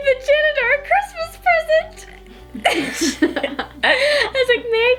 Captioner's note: laughing